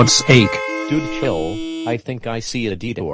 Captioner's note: car horns honking